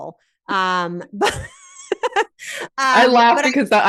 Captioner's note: laughs